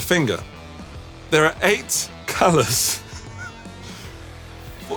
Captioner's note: laughs